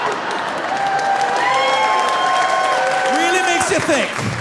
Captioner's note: audience laughing; audience cheering